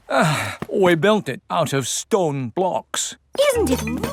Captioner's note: sighs